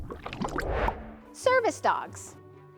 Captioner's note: water burbling; transition whooshes; gentle inspirational music